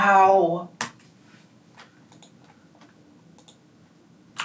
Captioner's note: keyboard clicking